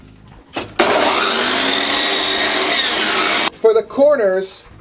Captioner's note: electric saw whirring